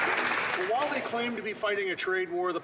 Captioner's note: some Applause